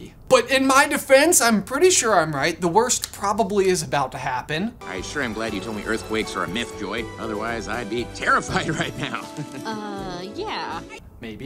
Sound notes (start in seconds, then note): 4.8 bright, upbeat music; 8.5 laughs